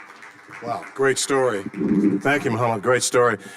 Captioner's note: audience applauding; microphone creaking